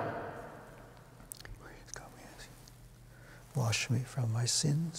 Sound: whispering

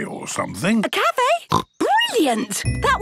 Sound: snorts

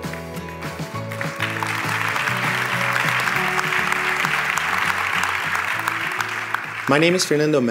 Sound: applause

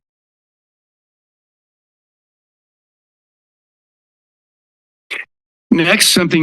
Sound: silence

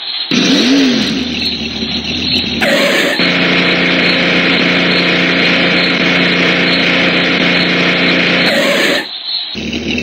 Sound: car enging and revs

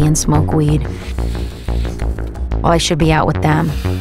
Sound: inhales nosily

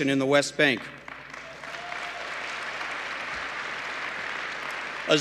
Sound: applause

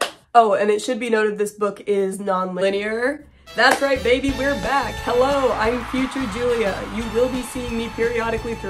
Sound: snazzy music; crowd cheering

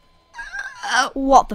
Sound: hoarse croaking while exhaling

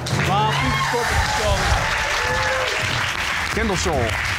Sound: audience applauds

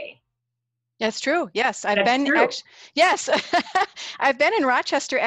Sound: laughing

